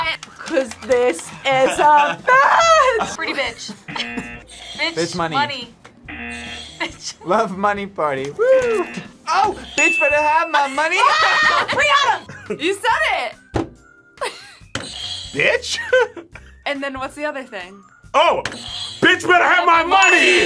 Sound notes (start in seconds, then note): 3.8 buzzer; 6.0 buzzer rings; 8.8 buzzer; 14.2 laughs; 14.8 buzzer rings; 15.6 laughs; 18.6 buzzer rings; 19.6 bell rings